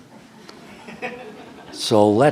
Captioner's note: laughter